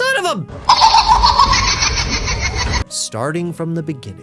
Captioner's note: laughing